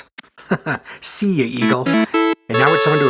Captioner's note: chuckles